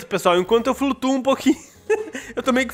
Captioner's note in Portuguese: risos